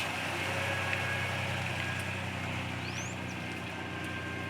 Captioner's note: engine rumbling